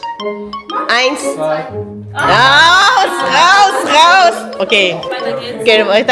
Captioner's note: speaking German